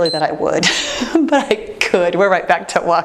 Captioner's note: timer beeps; chuckles